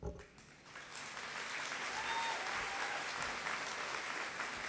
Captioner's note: applause